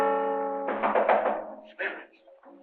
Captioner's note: knocking on door